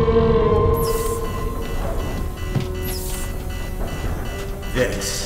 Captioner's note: creature screeching; alarm buzzing; door hissing